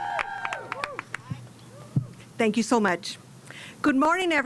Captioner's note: cheers and applause